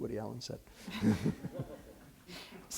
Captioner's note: laughter